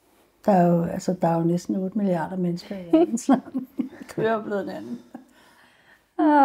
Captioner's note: laughing